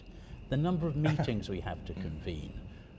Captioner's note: chuckles